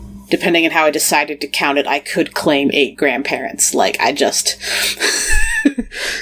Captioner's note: laughs